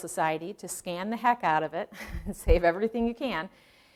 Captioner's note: chuckling